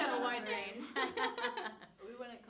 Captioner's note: all laughing